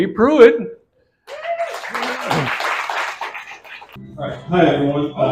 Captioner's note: applause